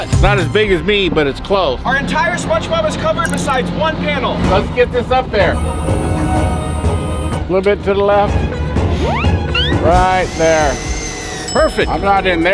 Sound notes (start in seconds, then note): 5.7 intriguing suspenseful dramatic music; 8.8 hand wheezing; 10.6 power tool whirring; 11.5 bell chimes